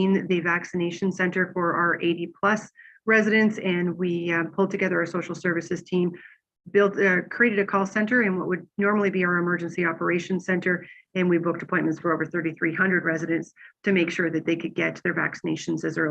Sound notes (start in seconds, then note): none